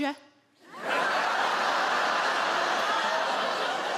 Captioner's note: audience laugh